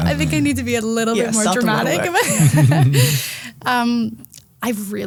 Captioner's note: group laughing